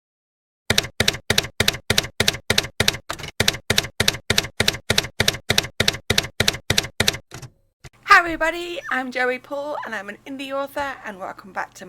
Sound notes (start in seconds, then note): 0.7 typewriter keys clacking